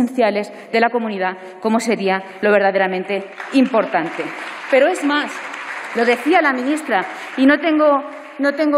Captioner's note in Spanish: Aplausos